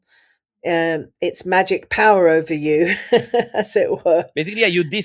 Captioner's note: laughs